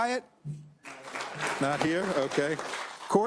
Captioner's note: applause